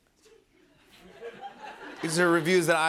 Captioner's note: laughter